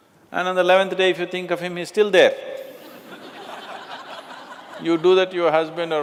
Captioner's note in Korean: 웃음